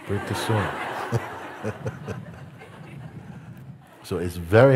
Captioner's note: Lachen